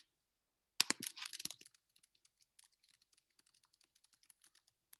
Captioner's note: keyboard clicking